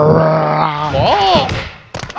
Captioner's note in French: son de kung fu